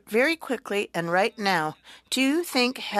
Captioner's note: speaking French